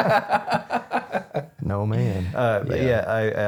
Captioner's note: laughing